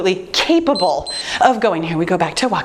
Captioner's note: timer beeps